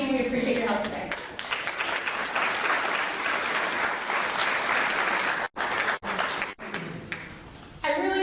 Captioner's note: clapping